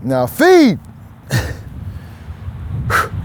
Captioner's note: chuckles